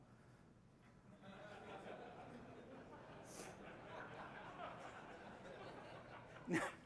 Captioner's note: laughter